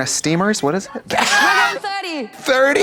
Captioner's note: Katya rasps